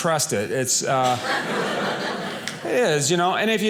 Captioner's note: audience laughing